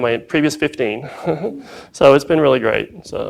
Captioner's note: laughs